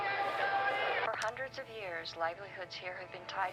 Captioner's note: television